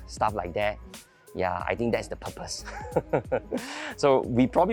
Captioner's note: laughs